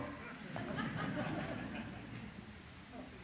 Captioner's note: laughter